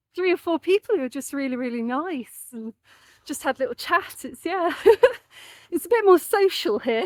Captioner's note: laughing